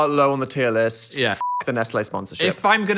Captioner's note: beep